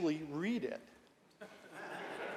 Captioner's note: laughter